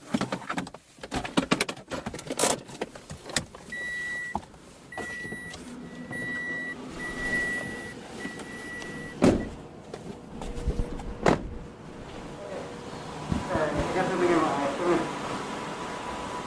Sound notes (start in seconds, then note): 0.1 removing car key, pulling handbrake, car beeping; 9.0 car doors slamming; 13.3 muffled voice